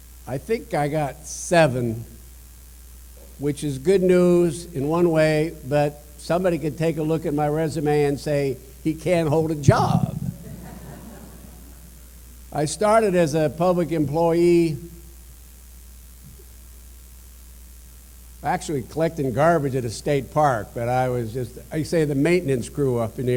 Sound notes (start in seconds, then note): 10.2 laughter